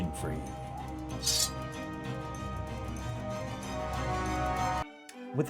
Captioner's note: sword sfx